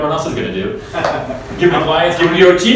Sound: laughing

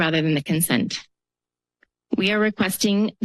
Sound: pause

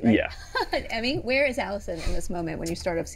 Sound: chuckles

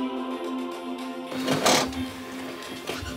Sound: cracking noise

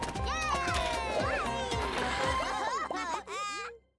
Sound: laughing

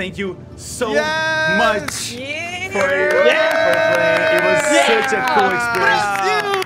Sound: everyone celebrating

